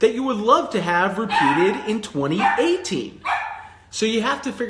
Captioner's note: dog barking